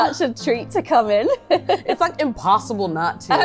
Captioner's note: laugh